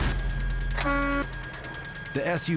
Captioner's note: horn honking